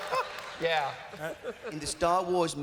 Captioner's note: chuckles